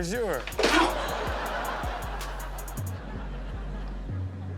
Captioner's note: man groans